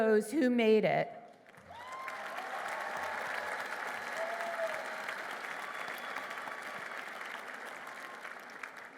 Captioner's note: applause